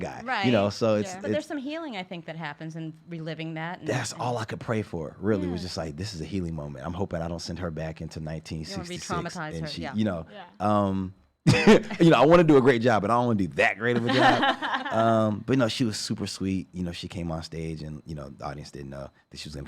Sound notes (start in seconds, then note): 11.5 laughs; 13.9 laugh